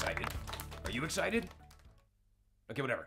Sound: weak applause

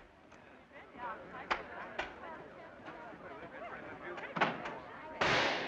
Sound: crowd murmuring; gunshot

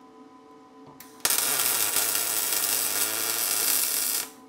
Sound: tool crackling

